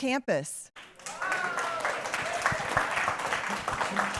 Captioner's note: applause